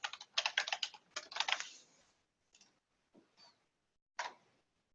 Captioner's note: keyboard keys clacking